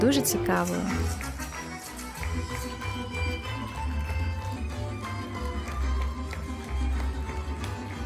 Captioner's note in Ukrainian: оплески